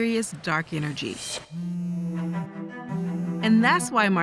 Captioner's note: phone vibrating